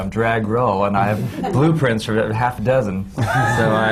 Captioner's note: laughter